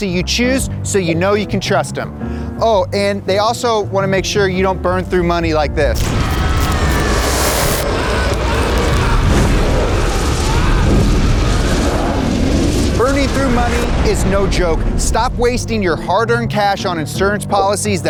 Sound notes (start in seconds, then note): 6.1 dramatic music; 6.1 fire blazing